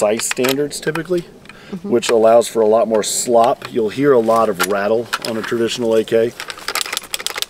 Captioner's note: rattling noise